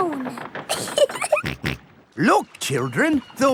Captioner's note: giggling; snorts